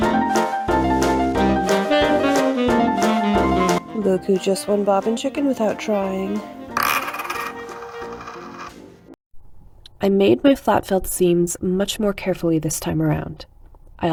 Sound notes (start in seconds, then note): 6.9 bobbin clatters on table, whirls around like a top